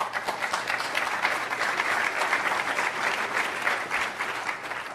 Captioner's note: applause